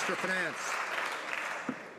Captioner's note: some Applause